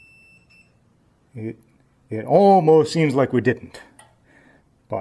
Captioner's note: beeping stops